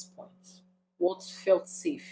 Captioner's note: paause